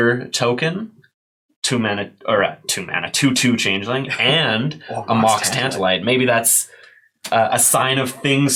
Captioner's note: laughing